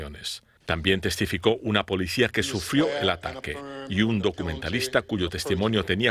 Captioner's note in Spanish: habla en ingés